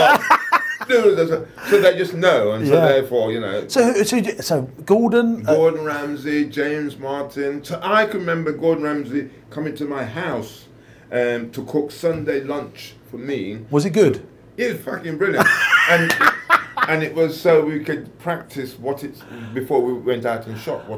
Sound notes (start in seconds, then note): 0.0 laughs; 15.4 laughs